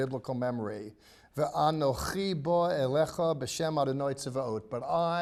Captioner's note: speaking in Hebrew